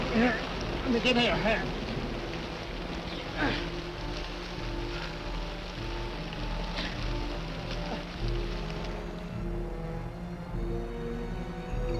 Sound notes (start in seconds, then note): 3.4 Quent grunts; 7.8 tense orchestral music